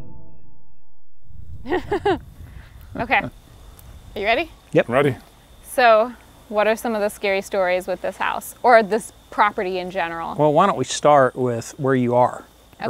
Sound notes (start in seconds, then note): 1.6 laughs